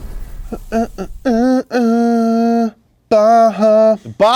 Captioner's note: dramatic music; hamming